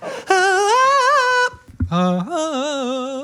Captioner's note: Dan vocalizing; vocalizing